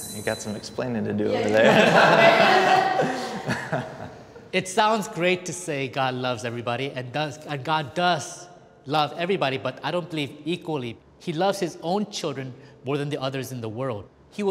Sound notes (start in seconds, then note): 1.3 all laughing